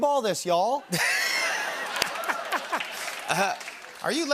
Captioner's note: laughter and applause